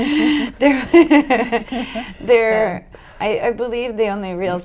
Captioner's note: laughter